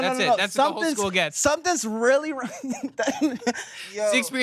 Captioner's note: laughs